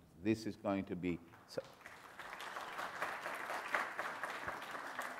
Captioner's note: audience clapping